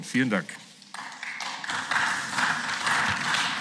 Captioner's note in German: Beifall